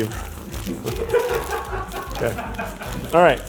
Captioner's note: crew laughing